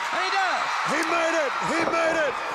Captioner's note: crowd cheering